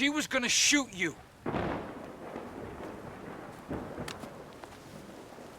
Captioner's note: thunder rumbling